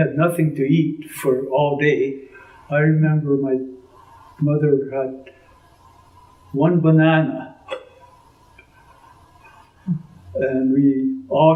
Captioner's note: laughs